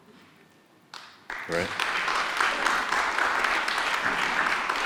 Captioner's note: audience applauds